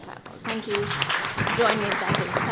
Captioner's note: attendees applauding